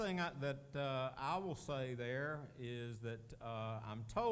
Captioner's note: none